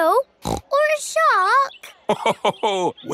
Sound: snorts; laughs

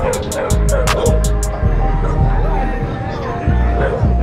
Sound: dogs barking

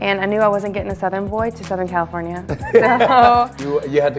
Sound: Nate laughs

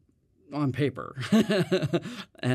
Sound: laughs

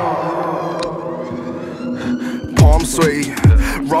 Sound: sirens blare

